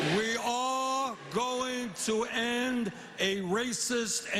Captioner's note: cheers and applause